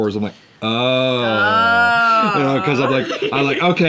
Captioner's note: both exclaim